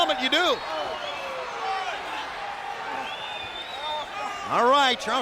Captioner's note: crowd cheering; crowd whistling